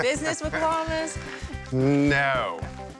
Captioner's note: laughs